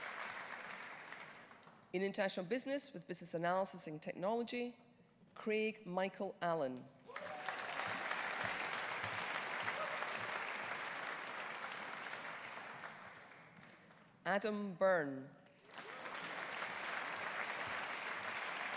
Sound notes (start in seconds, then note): 7.1 audience applauding; 15.6 audience applauding